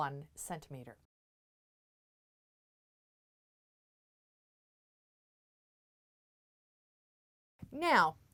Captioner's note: no Sound Present